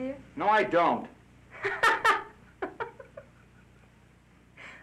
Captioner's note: laughing